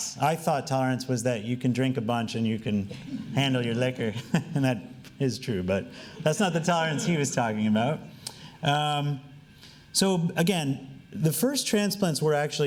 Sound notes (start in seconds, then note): 3.8 laughing